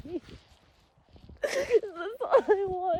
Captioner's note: sobs through words